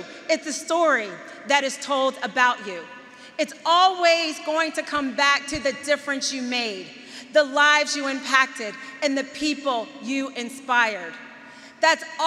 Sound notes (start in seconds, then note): none